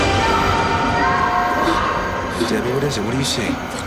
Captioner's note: screaming